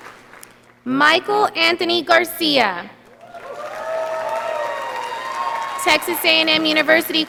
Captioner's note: audience applauding